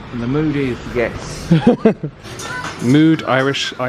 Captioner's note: chuckles